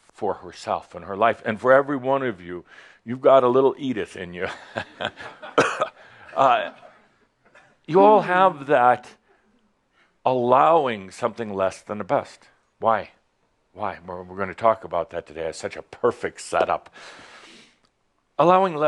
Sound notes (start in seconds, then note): 4.5 chuckles